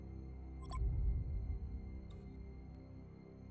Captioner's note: monitor blips